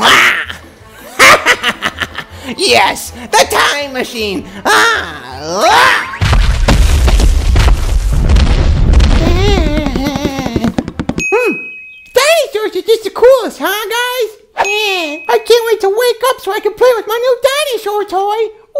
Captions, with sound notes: (laughs) Yes, the time machine! Ahhh! (dinosaur stomping) - Dinosaur's are just the coolest, huh, guys? I can't wait to wake up so I can play with my new dinosaur toy!